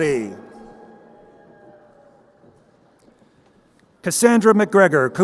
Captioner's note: crowd cheering